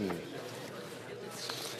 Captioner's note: speaking FRENCH